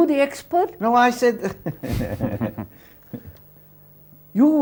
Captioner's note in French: rires